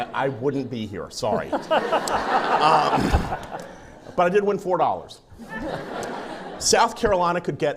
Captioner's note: laughing